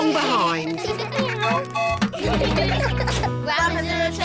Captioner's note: tooting; all giggling